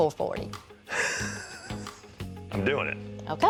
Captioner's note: laughs